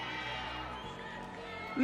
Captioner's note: audience cheering